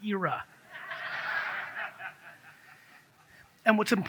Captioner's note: audience laughs